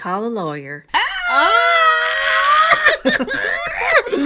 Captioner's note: screams Of Excitment